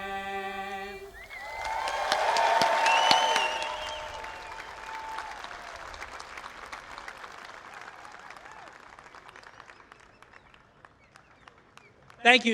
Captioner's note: applause